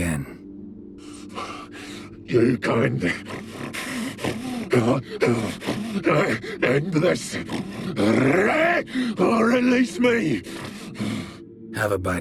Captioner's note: pant